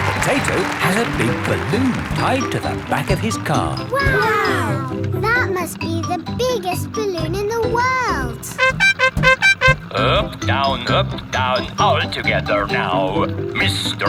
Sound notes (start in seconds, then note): 0.0 cheering; 8.5 horn beeping